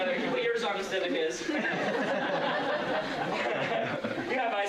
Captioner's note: laughter